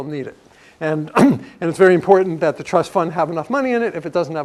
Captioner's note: cough